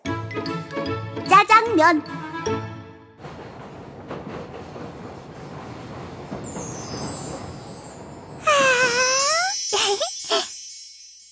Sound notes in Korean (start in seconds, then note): 3.1 덜컹덜컹, 지하철 소리; 6.5 샤라랑, 별빛 소리; 9.8 기대에 찬 웃음